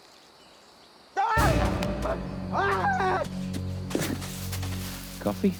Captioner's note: Hatfield screams; tense music